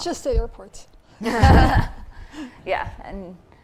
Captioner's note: laughing